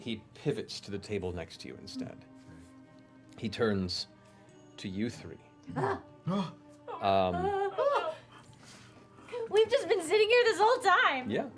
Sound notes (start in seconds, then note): 5.7 yelps